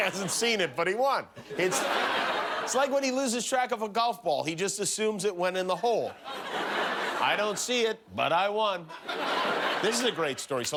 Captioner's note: laughter